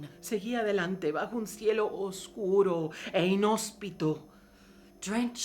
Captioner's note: speaking in foreign language